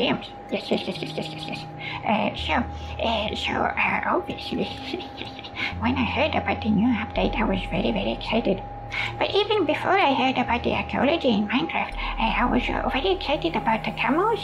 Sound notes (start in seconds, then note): 4.8 chuckles